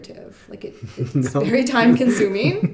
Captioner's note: laughing